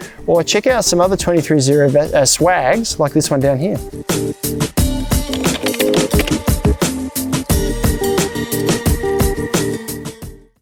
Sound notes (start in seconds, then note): 3.4 upbeat music; 5.2 typing